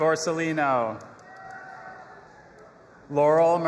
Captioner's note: audience applauding and cheering